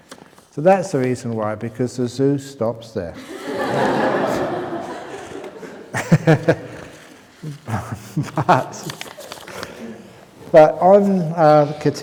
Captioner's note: laughter